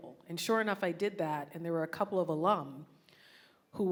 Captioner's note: none